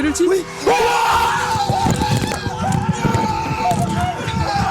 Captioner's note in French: Cri de joie